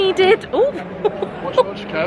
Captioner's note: laughing